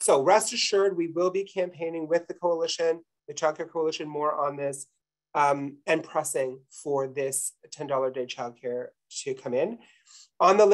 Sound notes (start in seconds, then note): none